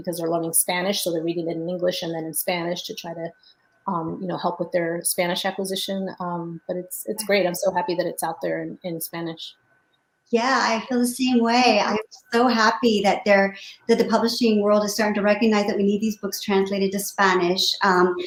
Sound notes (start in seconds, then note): none